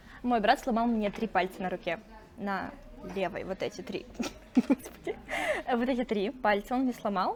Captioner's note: laughs